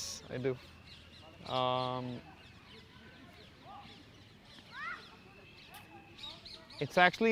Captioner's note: pauses 6 seconds